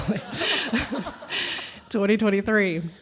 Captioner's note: everyone laughing